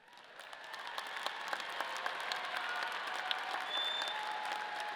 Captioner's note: audience applauding